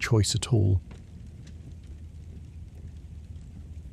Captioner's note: campfire Crackling